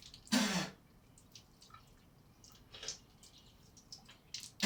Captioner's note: Michael spits